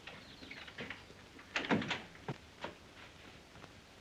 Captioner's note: door opens